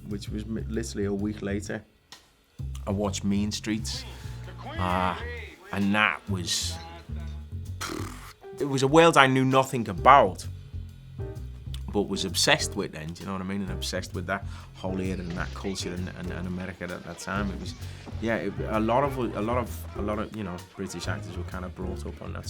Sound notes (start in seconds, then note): 7.5 blows burst of air